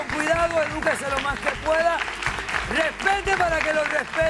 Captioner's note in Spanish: aplausos